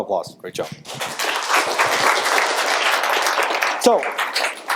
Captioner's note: audience applause